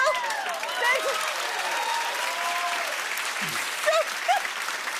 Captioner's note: cheers and applause; both laugh